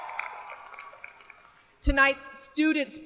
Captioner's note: cheers and applause